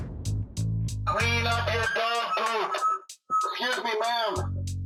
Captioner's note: over megaphone